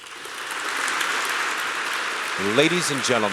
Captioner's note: applause